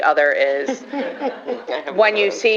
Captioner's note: laughter